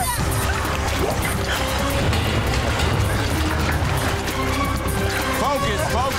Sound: urgent music; water splashing

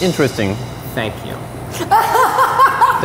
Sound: laughing

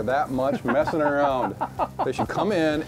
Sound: laughs

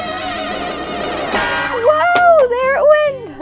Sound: pops

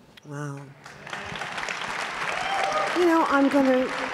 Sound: applause

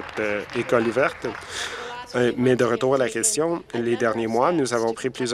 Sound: applause

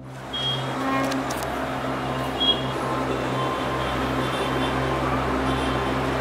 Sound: horn honking; dramatic music

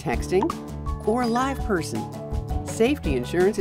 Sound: cellphone chirps; cellphone rings

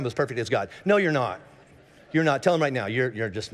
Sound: congregation laughing

